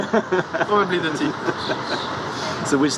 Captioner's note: laughter